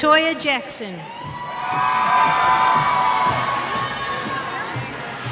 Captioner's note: cheers